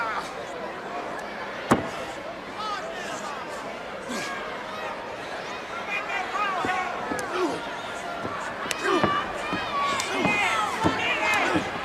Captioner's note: crowd cheering